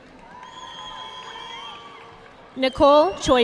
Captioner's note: audience clapping